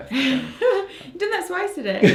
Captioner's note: laughs